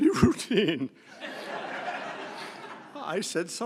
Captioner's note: laughter